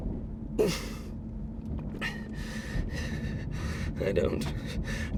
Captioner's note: Mark groaning